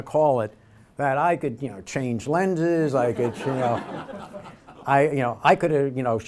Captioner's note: audience laughter